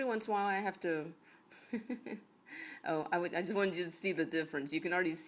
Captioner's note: chuckles